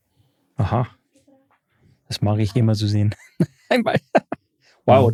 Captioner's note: lacht